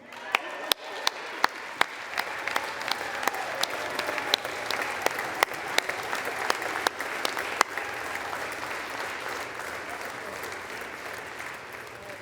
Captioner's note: applause